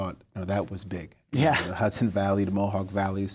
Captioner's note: chuckles